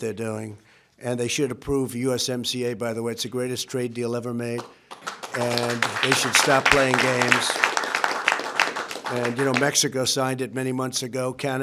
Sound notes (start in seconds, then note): 4.6 applause